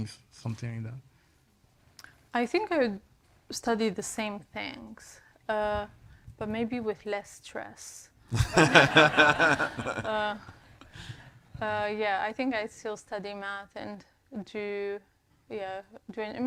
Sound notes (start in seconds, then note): 8.4 all laughs